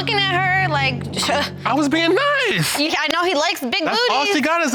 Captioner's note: toots